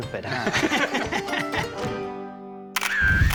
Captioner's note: laugh